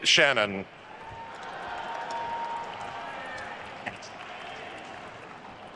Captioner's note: attendees cheering and applauding